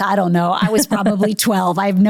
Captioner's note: laughing